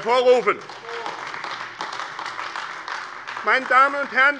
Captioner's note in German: Beifall AfD